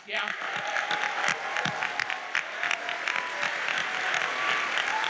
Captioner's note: audience applauds